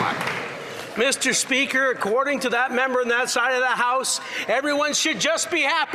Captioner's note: some Applause